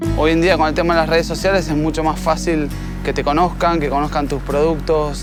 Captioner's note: speaking Spanish